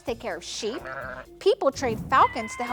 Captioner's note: sheep bleating